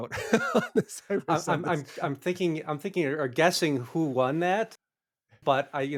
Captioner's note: laughing